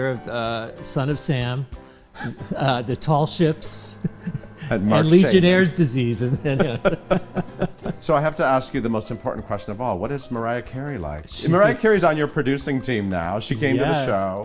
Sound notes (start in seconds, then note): 6.1 laughter